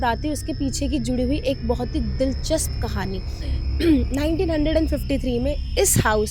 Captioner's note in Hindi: गला साफ़ करने की आवाज़